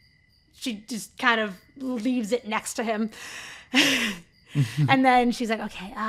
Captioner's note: chuckles